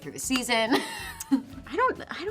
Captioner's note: Brianne laughs